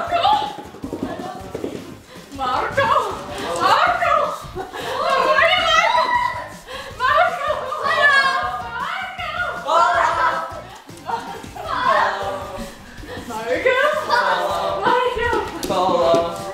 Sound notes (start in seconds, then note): 10.1 laughing